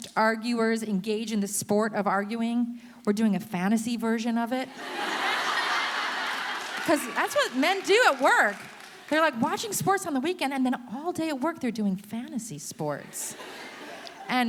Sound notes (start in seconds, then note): 4.7 audience laughing